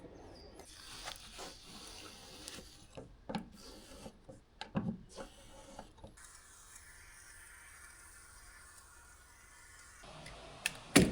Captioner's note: clicking